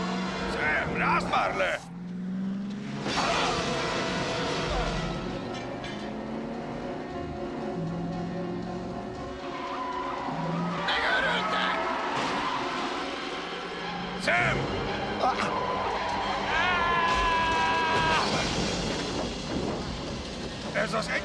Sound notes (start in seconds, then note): 2.9 officer screams; 16.0 tires screeching; 19.1 boy yelling